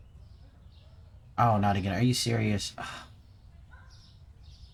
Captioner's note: pissed off sigh